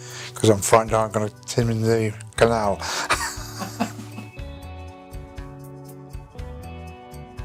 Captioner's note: laughter